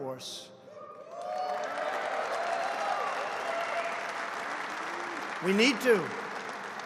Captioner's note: applause